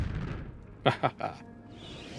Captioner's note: laughter